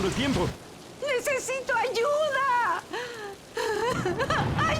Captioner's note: crying